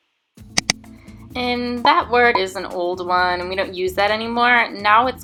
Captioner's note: click